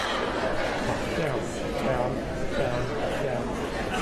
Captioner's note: laughter